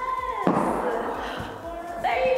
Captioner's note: feet thumping; laughing